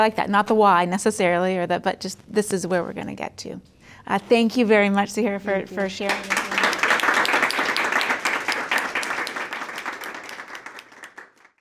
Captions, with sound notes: And I like that, and not the why, necessarily, but just this is where we're gonna get to. Thank you very much, Zahirah, for sharing your time. (audience applauds)